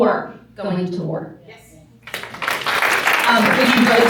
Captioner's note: applause